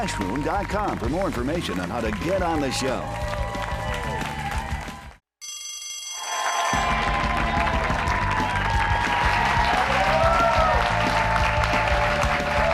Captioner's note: bell rings; cheers and applause